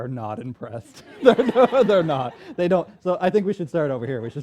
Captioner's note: laughter